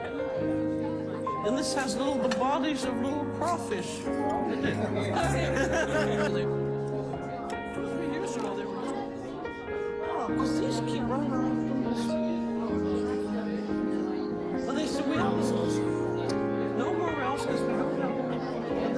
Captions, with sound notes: And this has little, the bodies of little crawfish. (laughter) (lively chatter)